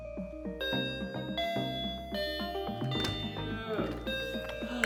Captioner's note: door bell ringing